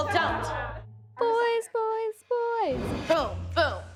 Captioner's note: singsong